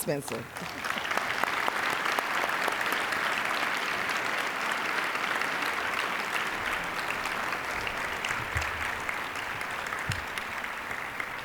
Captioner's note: applause